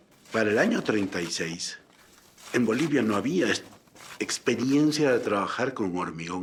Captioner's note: speaking in foreign language